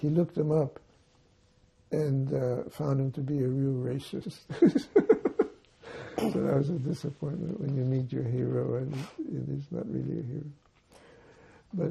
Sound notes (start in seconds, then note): 4.5 laughing